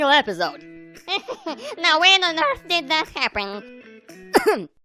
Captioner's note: nervous laugher